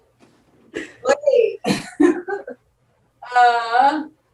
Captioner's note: laughs